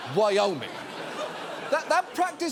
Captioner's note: studio audience laughing